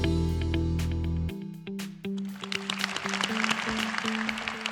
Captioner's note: applause